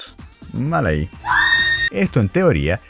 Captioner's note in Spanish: grito